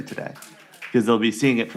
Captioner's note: applause